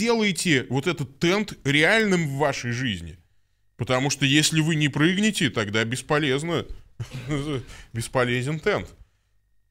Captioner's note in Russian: смех